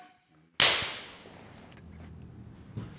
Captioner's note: high five slap